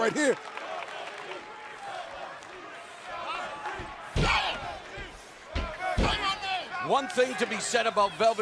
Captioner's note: crowd cheering